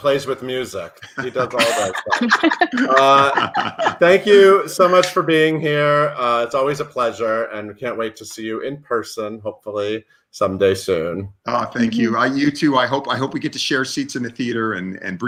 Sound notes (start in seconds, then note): 1.0 laughs